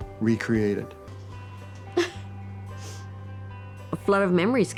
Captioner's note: sniffling